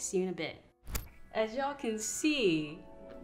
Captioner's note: screen flickers